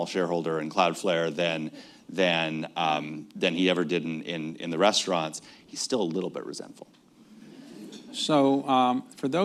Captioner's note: laughter